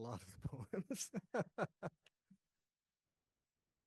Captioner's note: laughs